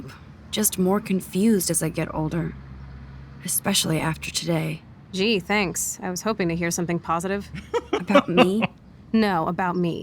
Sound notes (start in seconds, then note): 7.5 laughs